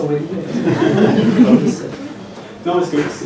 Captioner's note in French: rires